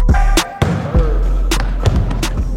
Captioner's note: ball bouncing; dunk sound